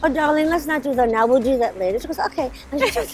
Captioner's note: laughter